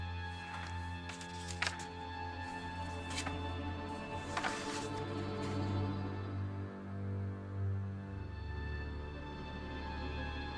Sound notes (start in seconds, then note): 0.2 pages rustling